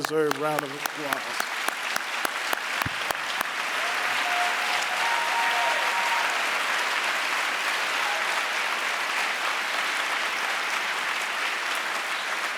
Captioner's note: applause